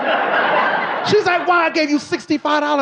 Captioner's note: audience laughing